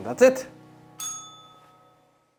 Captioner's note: bell rings